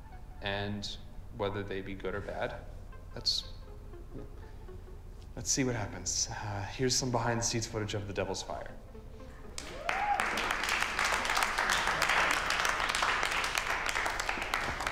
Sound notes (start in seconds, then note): 0.0 anxious music; 9.5 audience applauding